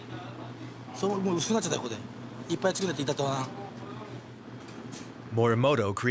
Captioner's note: speaking in foreign language